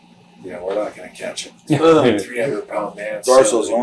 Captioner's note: interviewer laughs